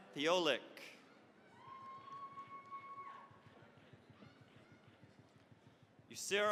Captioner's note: cheering, applause